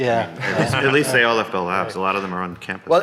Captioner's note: panelists chuckling